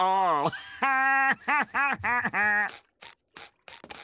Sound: laughing

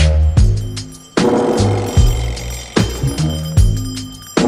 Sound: bells chiming; upbeat music

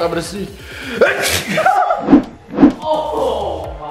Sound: sneezes

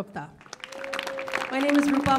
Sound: audience claps

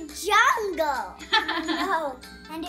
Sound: laughing

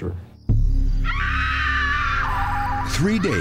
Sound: screaming

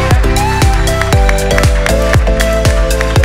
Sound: applause

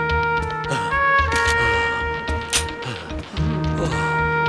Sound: pistol loading

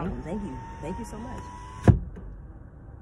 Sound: window rolls up

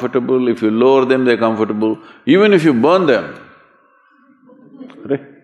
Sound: laughter

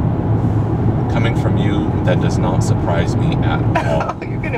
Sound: giggle

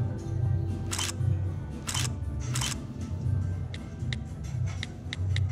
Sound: camera shutter clicks

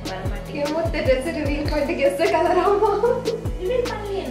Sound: laughs

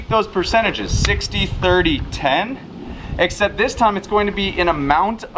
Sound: slapping

